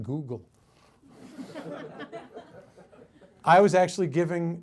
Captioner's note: audience laughs